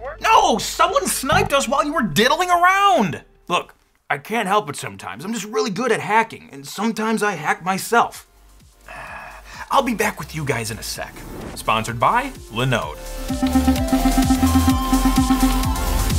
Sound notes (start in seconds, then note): 8.8 sighing; 13.1 techno music